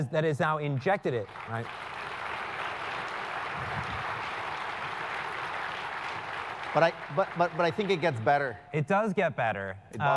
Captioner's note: applause